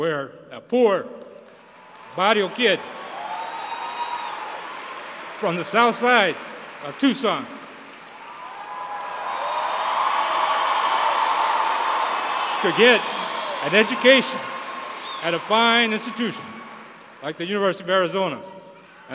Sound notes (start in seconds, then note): 0.2 applause; 9.4 applause